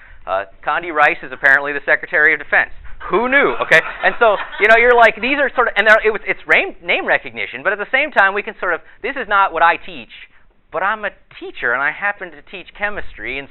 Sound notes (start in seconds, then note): 3.6 audience laughter